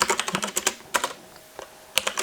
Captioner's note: keyboard clicking